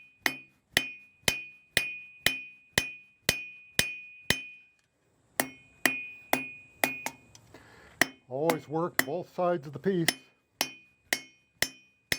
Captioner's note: hammering